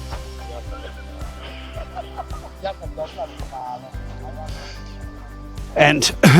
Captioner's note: laughter